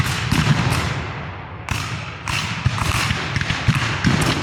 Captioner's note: guns fire